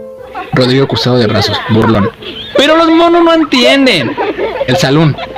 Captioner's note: arms crossed, mocking